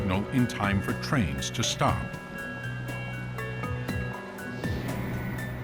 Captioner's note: beeping